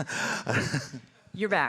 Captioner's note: chuckles